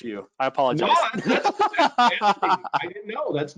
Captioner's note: laughing